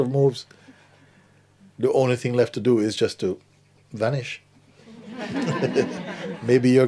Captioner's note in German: Lachen